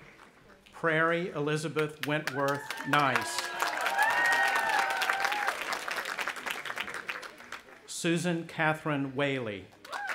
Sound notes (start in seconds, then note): 3.9 audience applauding and cheering